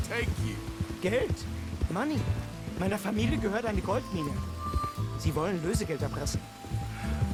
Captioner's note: in German